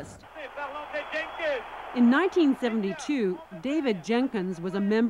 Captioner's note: cheering